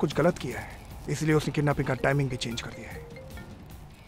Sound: phone ringing

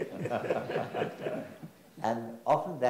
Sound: everyone laughs

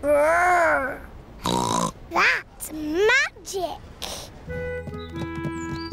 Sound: snorts

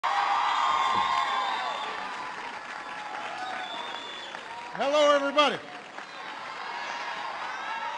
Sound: applause

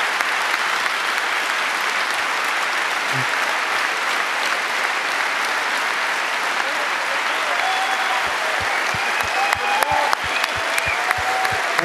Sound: continued applause

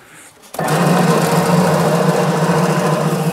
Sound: loud rattling

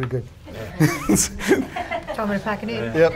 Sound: laught

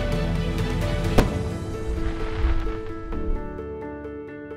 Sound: confetti explodes

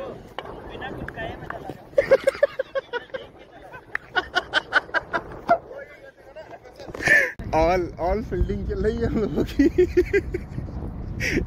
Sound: laughter

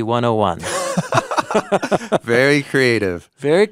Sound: both laughing

